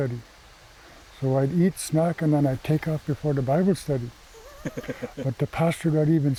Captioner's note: laughter